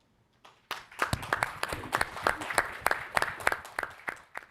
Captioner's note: all applauding